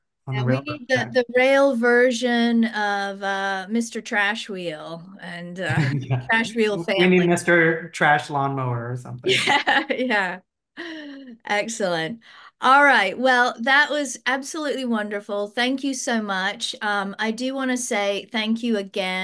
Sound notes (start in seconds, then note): 9.2 laughs